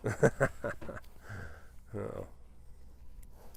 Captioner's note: laughs